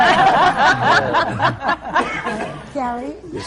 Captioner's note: laughter